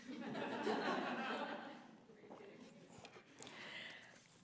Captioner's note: laughter